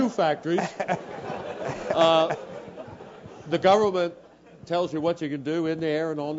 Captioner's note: laugh